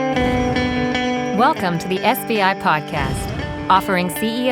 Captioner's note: acoustic guitar melody; voiceover